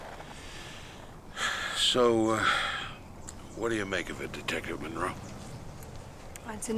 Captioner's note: sighs